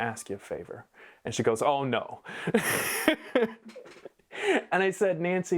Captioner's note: laughing